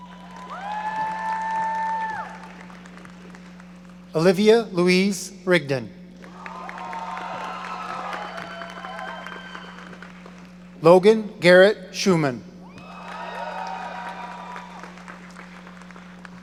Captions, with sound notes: (audience applauding) Olivia Louise Rigdon. (audience cheering) Logan Garrett Schumann. (audience applauding)